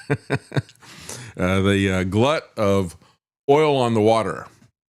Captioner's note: laughs